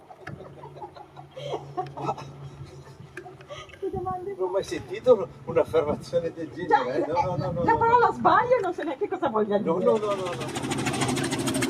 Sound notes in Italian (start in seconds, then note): 0.1 risate